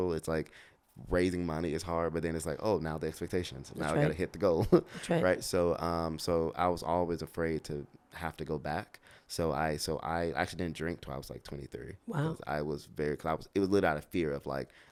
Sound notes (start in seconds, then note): 4.6 laughs